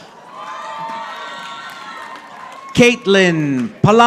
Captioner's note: audience applauding